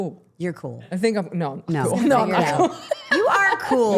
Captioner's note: laughing